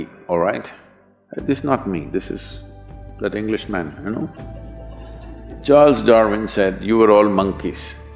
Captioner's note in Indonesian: Sedikit tertawa